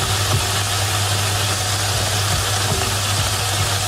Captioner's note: sizzling